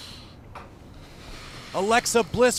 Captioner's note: breathing hard